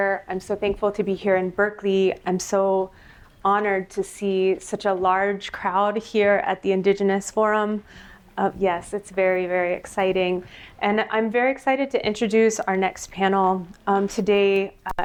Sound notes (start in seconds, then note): none